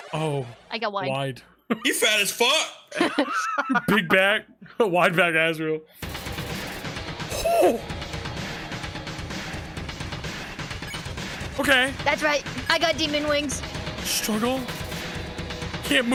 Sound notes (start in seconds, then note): 2.9 laugh; 2.9 laughs; 7.4 gasps